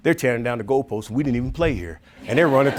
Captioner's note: audience laughing